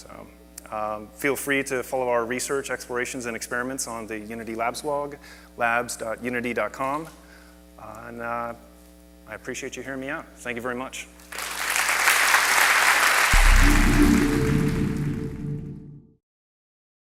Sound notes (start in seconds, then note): 11.3 audience applauds; 13.3 digital tone